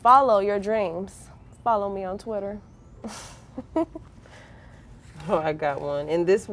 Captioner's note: giggling